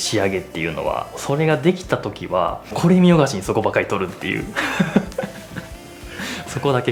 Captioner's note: laughs